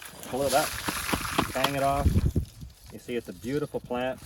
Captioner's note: knocks plant against shovel